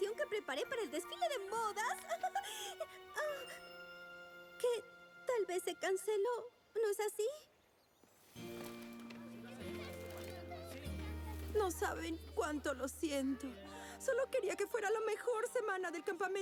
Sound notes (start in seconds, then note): 1.8 excited laughter fades